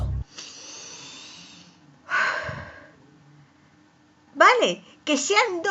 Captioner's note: irritated sigh